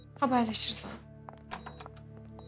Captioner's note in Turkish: Kapı Açılıyor